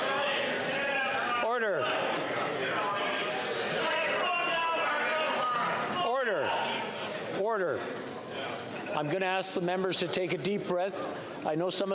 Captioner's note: yelling